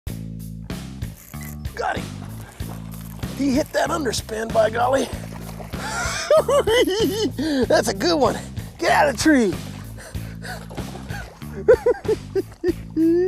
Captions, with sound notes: Got him. He hit that underspin, by golly. [giggles] That's a good one. Get out of the tree. [laughing]